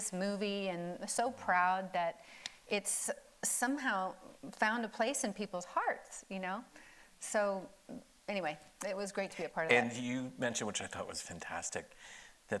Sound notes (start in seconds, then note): none